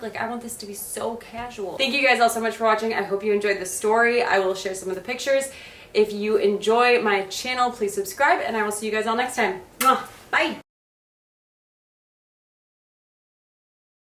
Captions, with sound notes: Like I want this to be so casual. Thank you guys all so much for watching. I hope you enjoyed the story. I will share some of the pictures. If you enjoy my channel, please subscribe. And I will see you guys all next time. (kisses) Bye